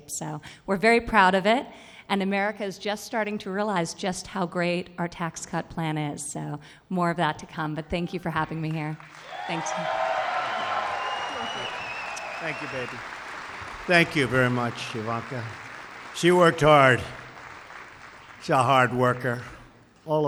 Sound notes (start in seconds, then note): 10.4 applause